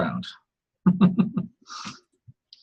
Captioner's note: laughs